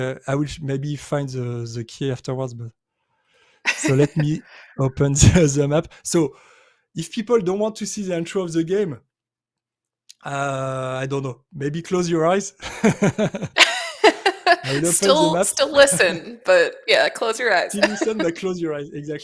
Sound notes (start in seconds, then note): 12.6 laughter